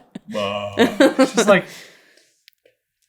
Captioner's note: laughing